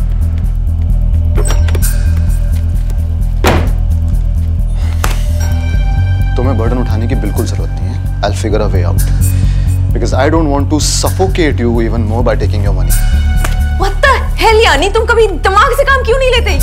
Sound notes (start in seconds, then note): 1.3 Cupboard door opens; 3.4 Cupboard door closes